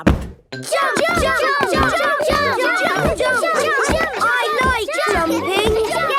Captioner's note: all shouting "Jump! Jump!"